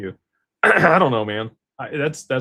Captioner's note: clears throat